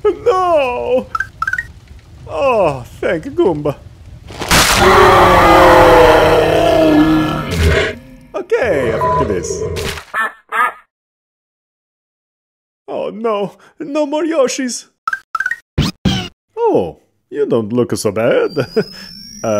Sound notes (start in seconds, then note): 4.4 Monster Yoshi roars; 10.1 quacking noise; 14.9 Yoshi squeaks